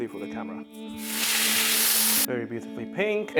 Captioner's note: sizzling sound